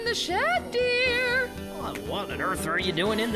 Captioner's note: shouting